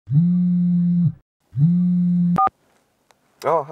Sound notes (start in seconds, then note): 0.0 phone vibrating